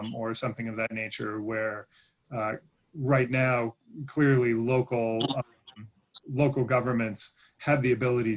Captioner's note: glitch interferes with audio